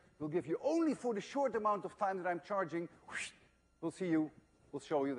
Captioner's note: wssshhht